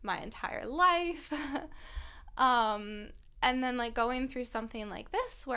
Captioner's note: laughter